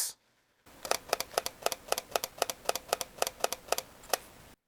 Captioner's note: clicking